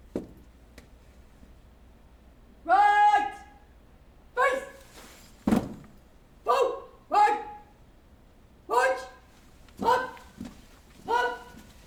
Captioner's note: shouted commands